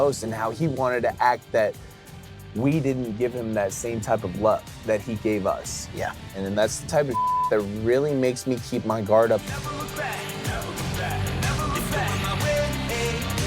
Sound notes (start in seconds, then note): 7.1 beep; 9.6 upbeat music